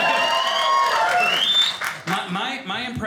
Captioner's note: audience applauding